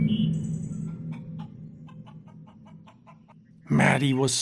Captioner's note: eerie music; chicken clucking